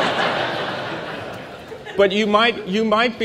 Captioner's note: laughter